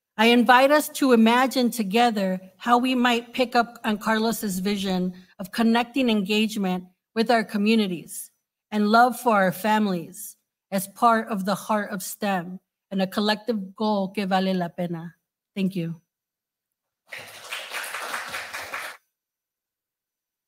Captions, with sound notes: I invite us to imagine together how we might pick up on Carlos's vision of connecting engagement with our communities and love for our families as part of the heart of STEM, and a collective goal (speaking Spanish) thank you. (audience applauding)